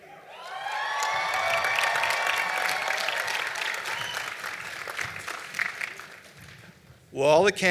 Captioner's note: applause